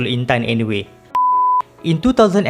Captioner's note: beep